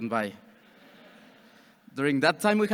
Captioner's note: audience chuckles